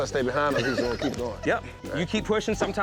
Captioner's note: laughter